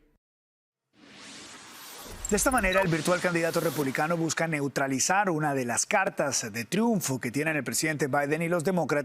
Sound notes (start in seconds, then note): 3.4 HABLA EN INGLéS